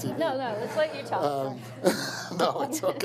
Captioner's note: laughs